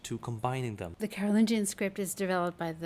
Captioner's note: voiceover